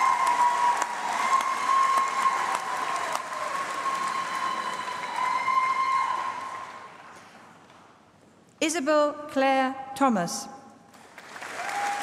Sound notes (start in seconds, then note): 6.3 applause